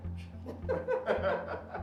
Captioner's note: laughing